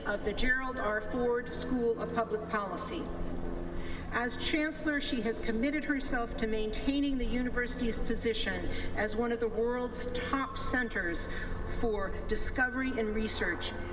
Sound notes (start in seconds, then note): none